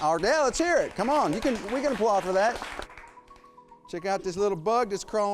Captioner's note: everyone applauds